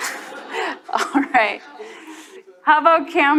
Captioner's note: chuckling; audience laughs